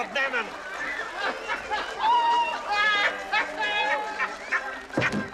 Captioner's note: Смеется; Угорает